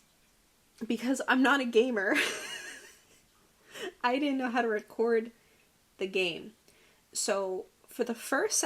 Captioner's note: oddly hysterical laughter